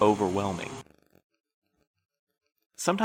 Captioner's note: the buzzing stops abruptly with the end of his sentence